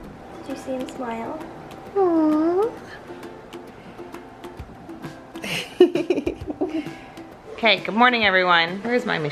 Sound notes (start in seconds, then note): 5.4 laughing